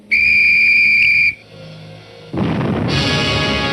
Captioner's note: blows whistle; gunshots